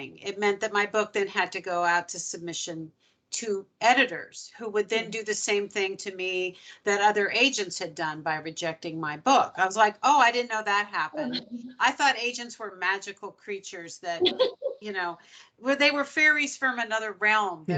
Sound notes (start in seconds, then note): 11.2 chuckling; 14.2 chuckling; 16.9 laughing